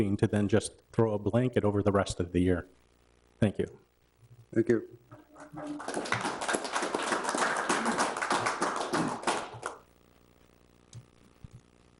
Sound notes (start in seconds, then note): 5.2 audience applauds